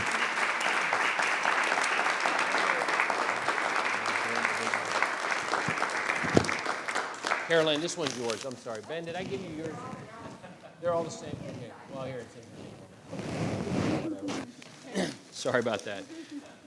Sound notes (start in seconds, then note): 0.2 applause; 9.9 laughing